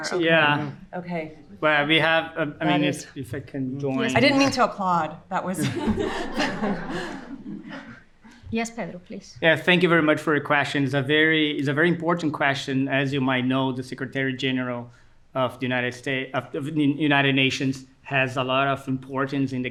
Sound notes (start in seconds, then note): 5.5 audience laughing